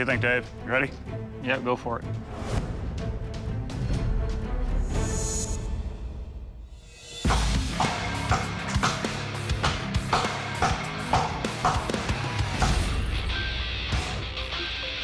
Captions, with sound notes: You ready? Yep, go for it. [chopping sounds] [rock music]